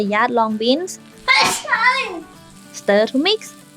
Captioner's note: sneeze